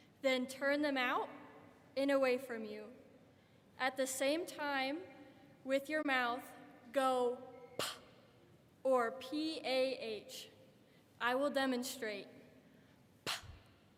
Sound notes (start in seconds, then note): 7.3 puffs out air; 13.2 puffs out air